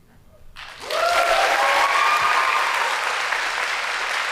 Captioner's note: audience applauding